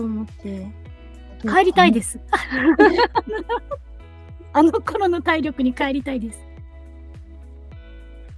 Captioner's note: laughs